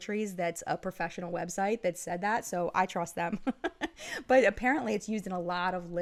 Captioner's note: laughing